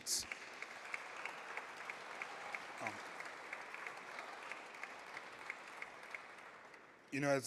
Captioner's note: applause